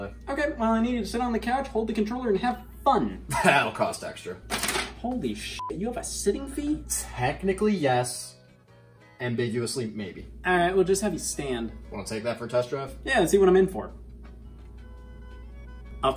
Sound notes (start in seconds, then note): 5.6 beep